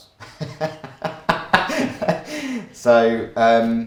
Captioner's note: laughs